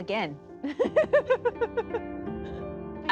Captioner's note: laughing